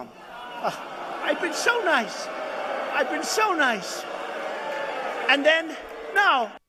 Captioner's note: audience booing